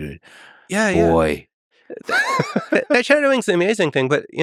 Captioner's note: laughs